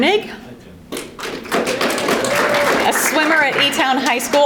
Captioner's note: audience applauding